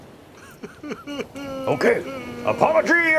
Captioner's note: sobbing